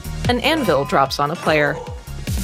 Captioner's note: anvil clangs